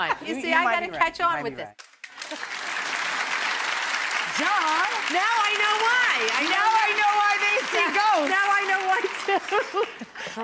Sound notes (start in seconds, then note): 2.0 audience applauds; 9.0 laughs